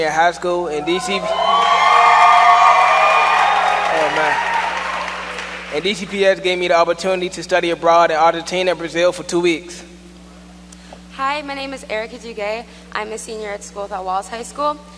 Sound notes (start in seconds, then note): 6.9 cheers and applause